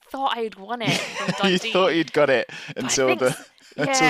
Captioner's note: laughs